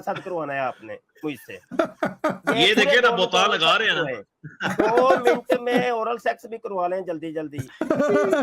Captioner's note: Ketawa